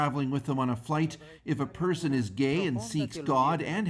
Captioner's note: speaking alternate language